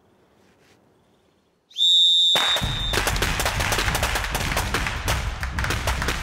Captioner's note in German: Pfiff, Musik, Schüsse